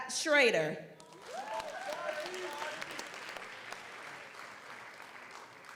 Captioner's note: audience applauds